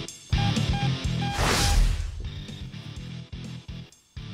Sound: energetic music; beeping; whooshing

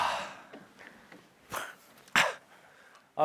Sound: coughing

